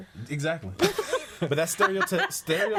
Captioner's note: all laughing